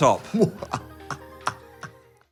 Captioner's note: Dan laughs evilly